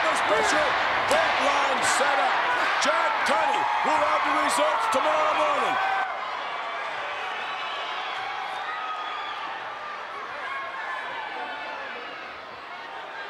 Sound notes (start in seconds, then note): 6.7 crowd murmuring